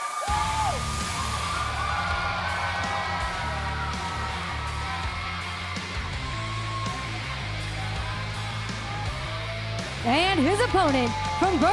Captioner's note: cheers and applause